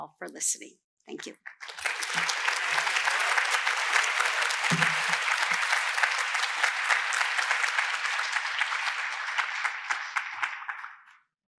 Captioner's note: applause